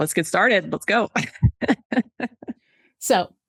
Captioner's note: laughs